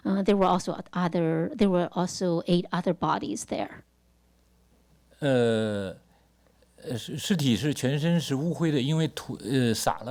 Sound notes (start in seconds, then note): 5.6 speaks Mandarin